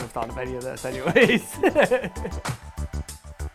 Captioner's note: laughs